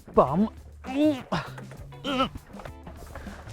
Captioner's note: grunts